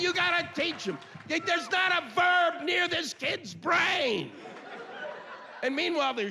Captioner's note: yelling